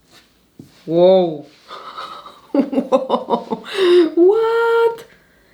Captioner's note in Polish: śmiech